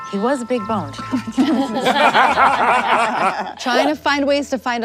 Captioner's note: everyone laughs